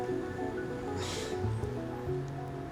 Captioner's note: chuckles